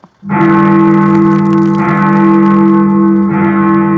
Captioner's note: bell tolling